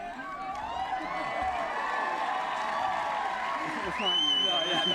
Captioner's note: applause